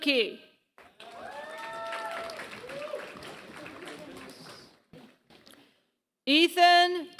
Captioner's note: applause